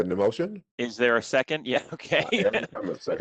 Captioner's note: laughter